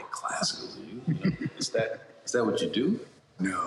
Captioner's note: laughter